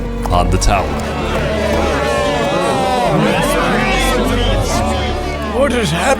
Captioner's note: background chatter